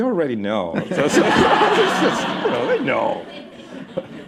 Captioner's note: laughter